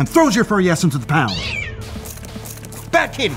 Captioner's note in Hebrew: יללה